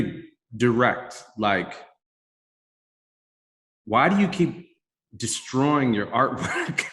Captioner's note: chuckles